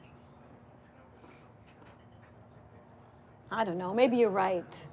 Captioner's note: people chattering